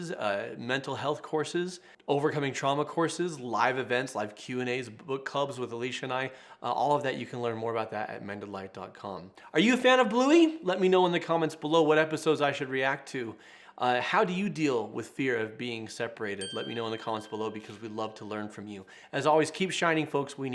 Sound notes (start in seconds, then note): 16.4 bell chimes